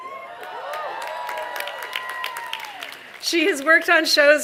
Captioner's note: applause